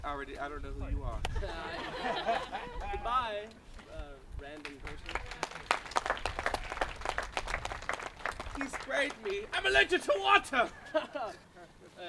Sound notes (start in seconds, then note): 1.3 laughter; 4.5 applause